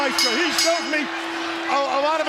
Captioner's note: bell ringing